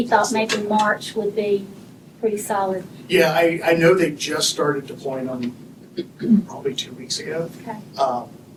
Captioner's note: clears throat